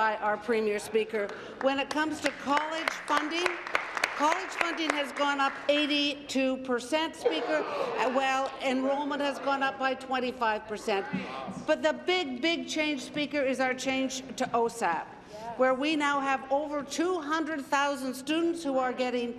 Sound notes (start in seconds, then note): 5.6 applause